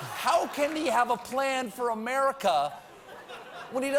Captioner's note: laughter